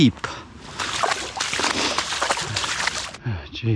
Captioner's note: splashing